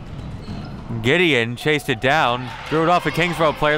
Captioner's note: crowd clapping